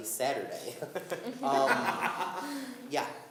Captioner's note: laughing